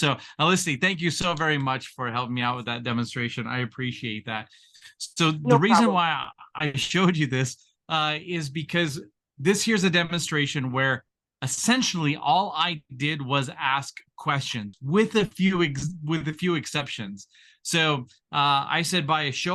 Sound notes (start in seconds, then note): 5.4 chuckle